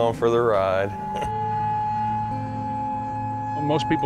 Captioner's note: sirens blaring